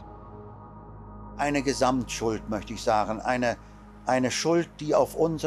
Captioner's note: speaking in German